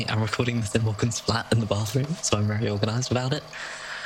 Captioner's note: tape recorder clicks on